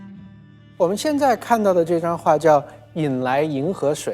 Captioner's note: Mandarin